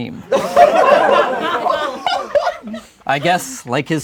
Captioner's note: laughing